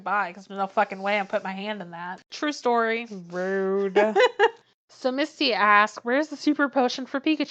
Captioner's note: laughs